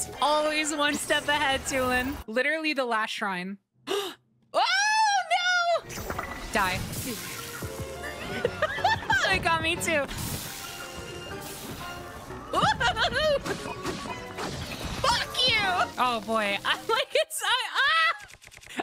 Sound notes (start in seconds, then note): 3.9 gasp; 8.0 laughter